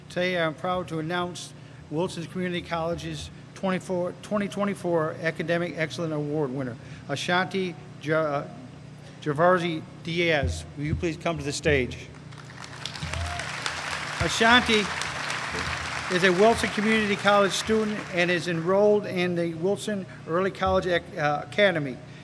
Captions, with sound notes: Today, I'm proud to announce Wilson Community College's 2024 Academic Excellence Award winner, Ashanti Gervacio-Diaz. Will you please come to the stage. [ Applause ] Ashanti is a Wilson Community College student and is enrolled in the Wilson Early College Academy.